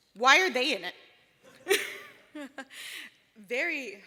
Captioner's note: laughter